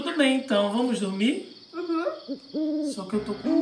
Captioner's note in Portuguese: som de coruja